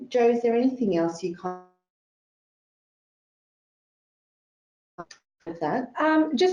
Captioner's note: audio distorts